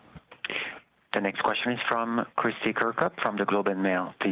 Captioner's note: speaking french